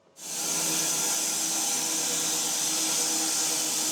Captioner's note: saw whirring